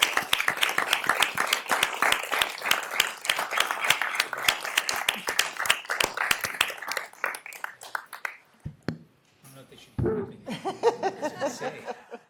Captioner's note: cheers and applause